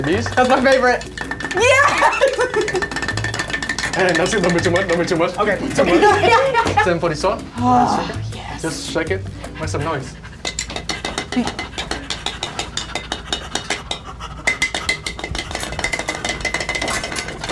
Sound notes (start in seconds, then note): 2.4 clanking; 10.2 banging; 11.3 panting